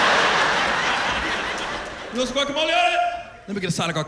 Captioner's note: laughter